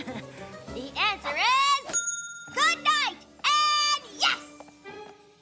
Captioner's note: ding